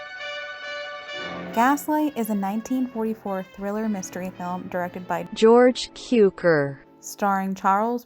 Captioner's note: automated voice